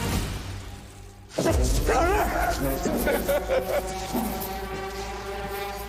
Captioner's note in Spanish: Sollozos